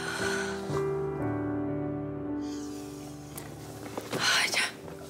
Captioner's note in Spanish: exhala